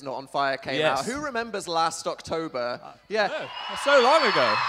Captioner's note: audience cheers